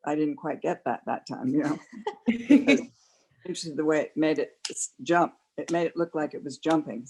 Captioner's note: laughter